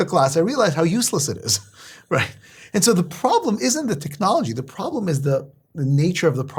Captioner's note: laugh